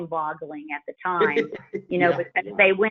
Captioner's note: laughs